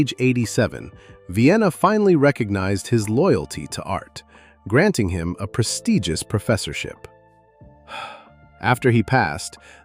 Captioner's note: sighs